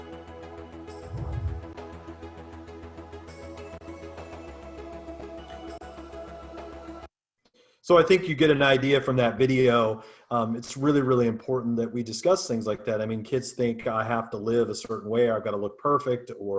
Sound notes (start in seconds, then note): 1.0 air whooshes